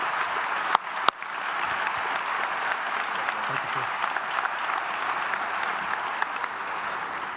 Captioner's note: applause